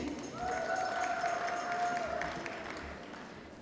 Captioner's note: applause